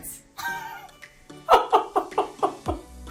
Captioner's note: laughs